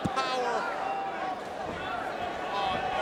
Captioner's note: crowd vocalizing